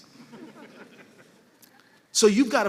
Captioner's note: laughter